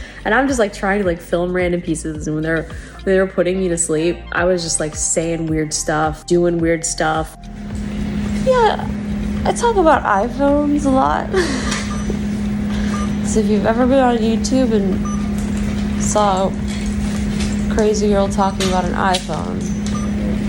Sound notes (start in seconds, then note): 11.2 giggling